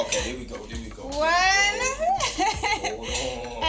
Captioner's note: laughs